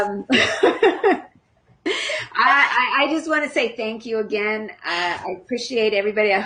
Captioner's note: laughing